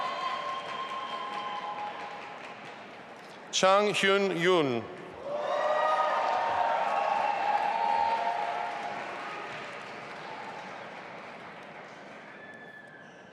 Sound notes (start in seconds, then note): 5.2 audience applauding and cheering